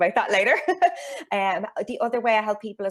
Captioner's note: chuckles